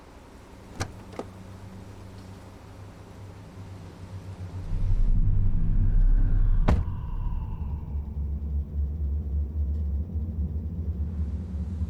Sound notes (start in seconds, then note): 2.9 car engine continues rumbling; 6.6 car door thuds; 6.8 soft suspenseful music